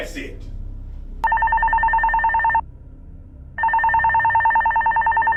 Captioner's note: phone ringing